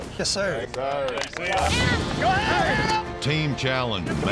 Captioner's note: clapping, cheering